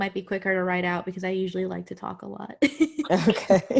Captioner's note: laughs